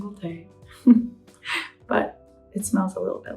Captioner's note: laughs